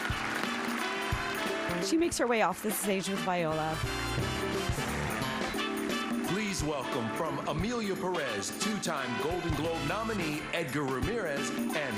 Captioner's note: applause